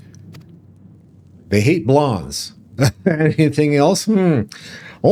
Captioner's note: laughs